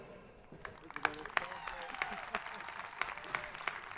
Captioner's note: crowd applauding